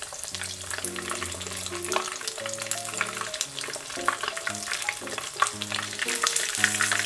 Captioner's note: sounds like rain ASMR